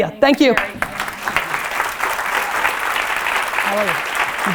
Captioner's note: audience applause